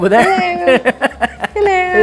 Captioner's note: laughs